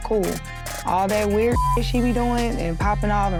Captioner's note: beep